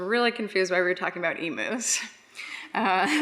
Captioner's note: laughs